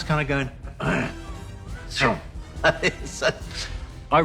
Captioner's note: grunts, laughs